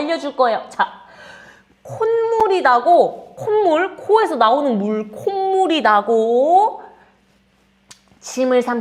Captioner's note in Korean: 콧물